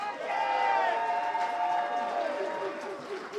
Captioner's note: crowd cheers